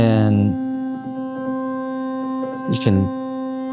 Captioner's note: loud humming